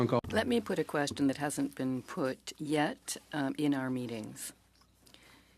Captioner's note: speaking French